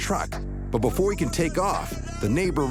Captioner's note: man yelling